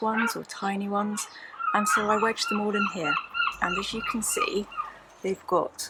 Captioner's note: more seagull squawks